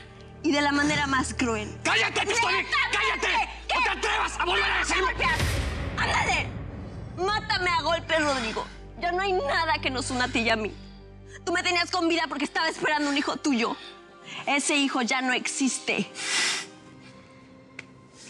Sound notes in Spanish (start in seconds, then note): 2.6 gritan al unísono; 16.0 resoplido